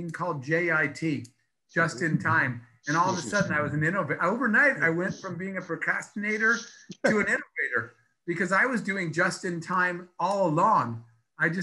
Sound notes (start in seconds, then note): 2.9 laughs